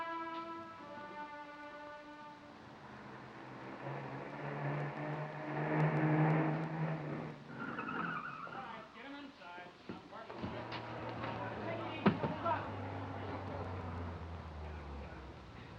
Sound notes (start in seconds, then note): 2.3 engines rumbling; 2.5 tires squealing